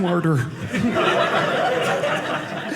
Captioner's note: audience laughing